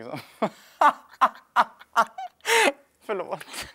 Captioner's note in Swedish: Skratt